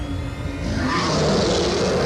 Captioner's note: lion roars